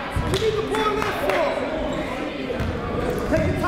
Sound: shouting

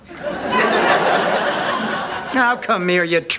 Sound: audience laughter

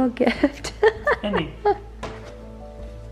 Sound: laughs

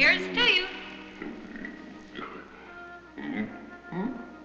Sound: grunting

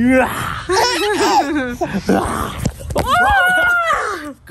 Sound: growls; laughs; shouts

